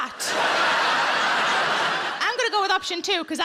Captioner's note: audience laughs